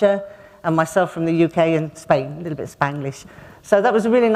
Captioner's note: a little bit of Spanglish